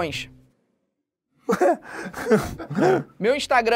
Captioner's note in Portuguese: risadas